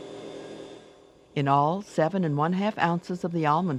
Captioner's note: voiceover